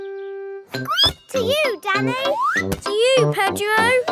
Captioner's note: squeaks